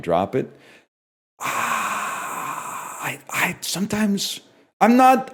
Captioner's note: exhales